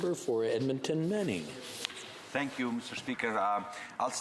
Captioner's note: speaking French